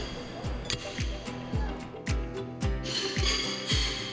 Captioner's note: mellow music; horseshoes clanking; mellow music